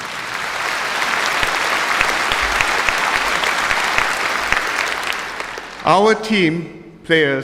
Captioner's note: applause